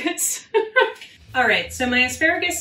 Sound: laughing

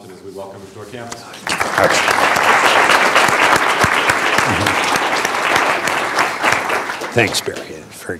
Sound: applause

